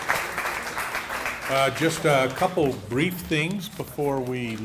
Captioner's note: applause